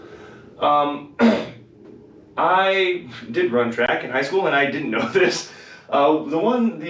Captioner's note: cough